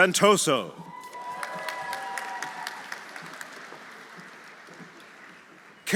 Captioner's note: audience cheering; audience applauding